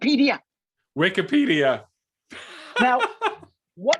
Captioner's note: laughing